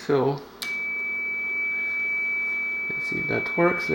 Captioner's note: continuous tone